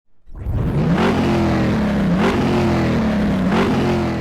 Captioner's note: engine revving